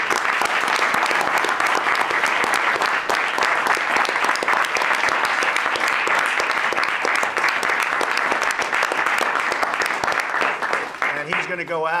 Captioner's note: applause